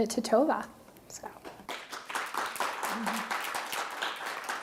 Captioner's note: applause